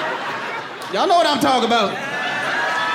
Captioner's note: audience cheering